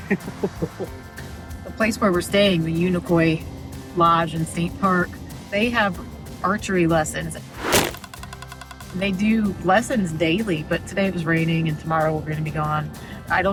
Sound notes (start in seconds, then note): 0.0 chuckling; 7.5 arrow thudding, knocking